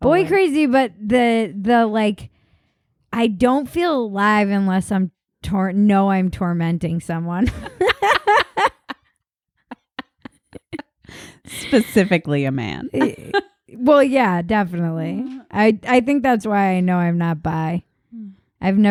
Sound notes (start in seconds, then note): 7.7 laughing